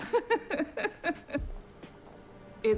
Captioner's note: laughing